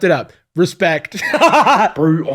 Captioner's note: laguhs